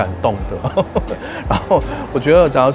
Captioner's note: laughs